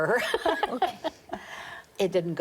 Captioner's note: laughter